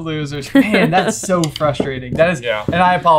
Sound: laughing

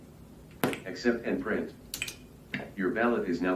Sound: voiceover

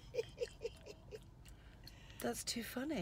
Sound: laughing

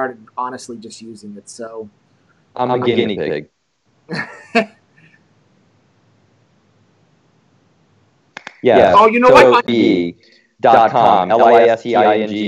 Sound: laughs

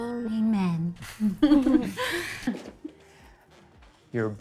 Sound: laughs

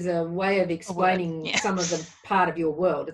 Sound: laughs

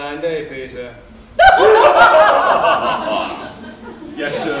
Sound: laughter

